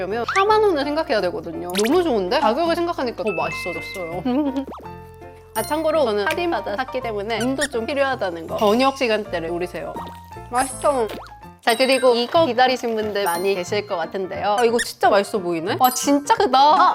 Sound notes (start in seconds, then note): 11.0 another crunchy bite